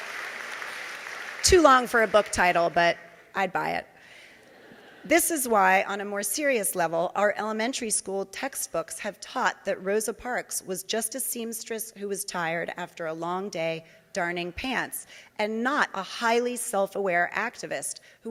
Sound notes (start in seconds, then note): 4.5 audience laughing